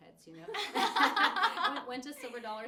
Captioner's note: all laughing